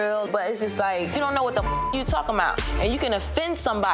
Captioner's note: beep